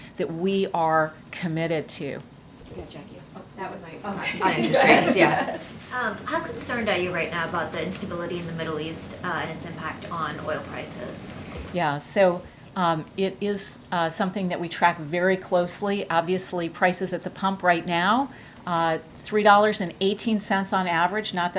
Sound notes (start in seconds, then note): 4.4 laughter